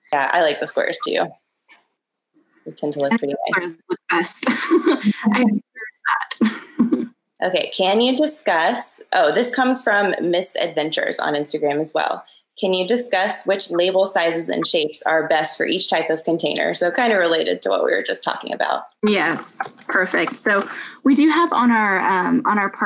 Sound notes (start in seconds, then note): 4.5 laughs